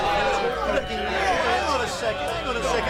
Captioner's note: shouts of agreement